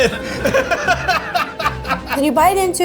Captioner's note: all laugh